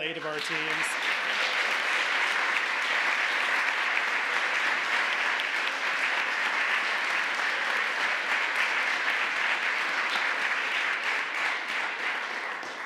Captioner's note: applause